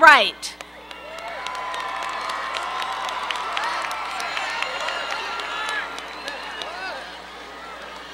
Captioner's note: applause